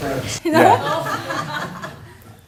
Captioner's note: laughter